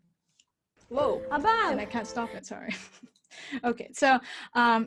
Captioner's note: laughs